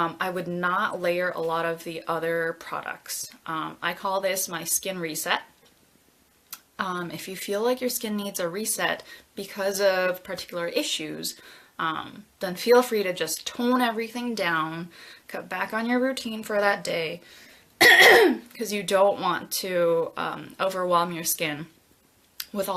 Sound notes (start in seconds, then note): 17.8 coughs